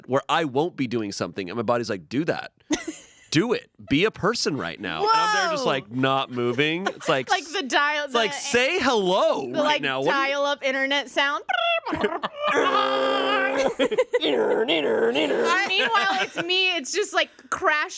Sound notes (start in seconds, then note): 11.9 imitates beeps; 13.1 yells